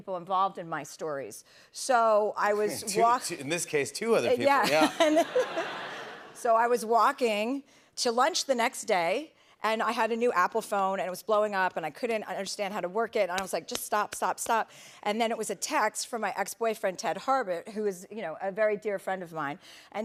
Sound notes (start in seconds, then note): 4.6 laughs